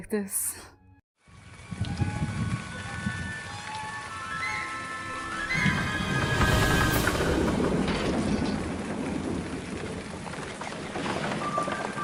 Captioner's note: rain and horses